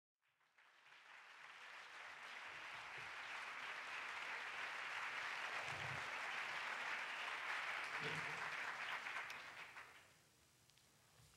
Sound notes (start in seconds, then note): 0.2 applause